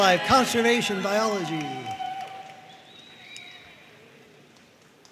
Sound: audience cheering and applauding

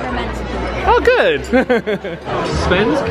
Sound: chuckles

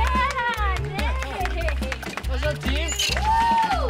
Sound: cheers

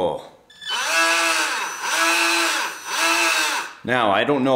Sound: propeller whirring

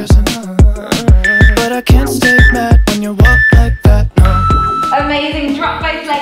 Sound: workout timer beeping

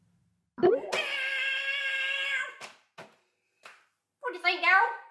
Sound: meows loudly

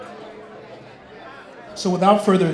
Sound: crowd noise

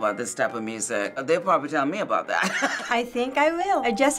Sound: chuckles

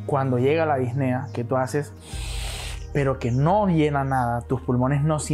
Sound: breathes in

